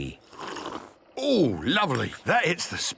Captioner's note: sipping